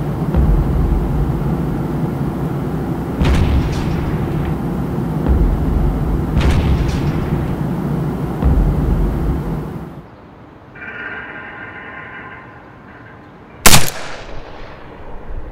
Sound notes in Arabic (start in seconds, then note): 0.3 انفجار باهت; 3.0 إطلاق نار; 5.2 انفجار باهت; 8.3 انفجار كليل; 10.7 صرير معدني وإجهاد; 13.6 طلقة بندقية